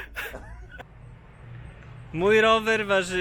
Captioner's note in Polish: śmiech